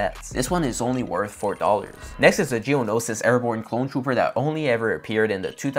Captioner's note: sound effect